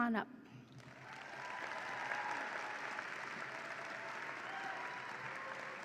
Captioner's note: audience applauds and cheers